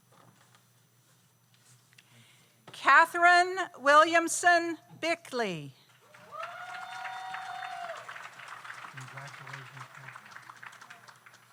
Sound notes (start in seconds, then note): 6.0 audience applauds; 6.1 audience cheers